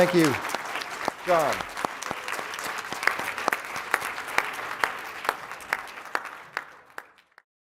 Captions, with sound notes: Thank you John. (applause)